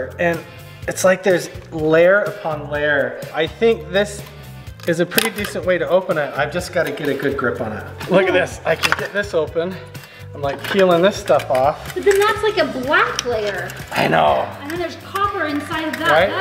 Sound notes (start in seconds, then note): 3.5 metal creaks; 6.7 metal scrapes on metal; 14.0 metal scrapes on metal